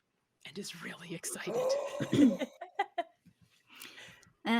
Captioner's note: gasps; laughing